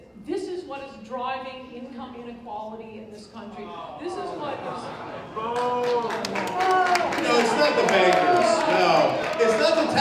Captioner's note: groans, boos